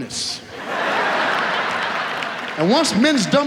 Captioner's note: audience laughs